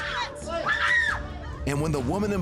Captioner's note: shoppers screaming